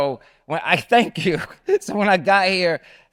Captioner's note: laughs